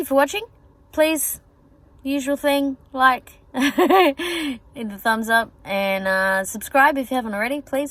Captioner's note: chuckles